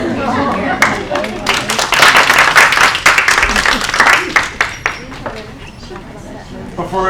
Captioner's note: applause